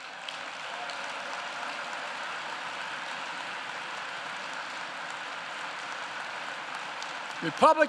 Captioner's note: applause